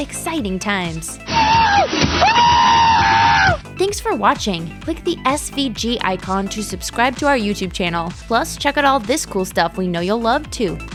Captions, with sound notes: Exciting times. [Screaming] Thanks for watching! Click the SVG icon to subscribe to our YouTube channel. Plus check out all this cool stuff we know you'll love, too!